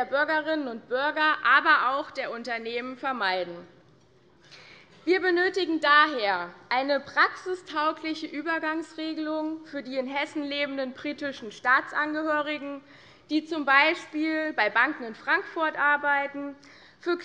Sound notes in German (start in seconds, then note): none